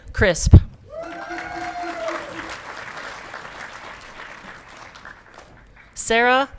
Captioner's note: audience clapping and cheering